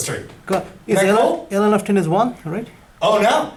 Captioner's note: voiceover